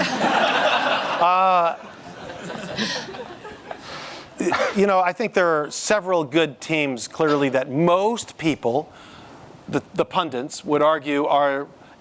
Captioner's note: laughter